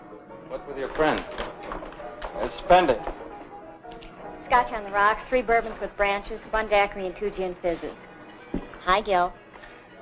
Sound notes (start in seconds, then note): none